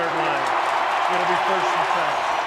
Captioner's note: cheering